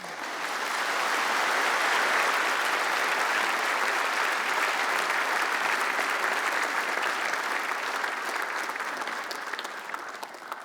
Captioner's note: applause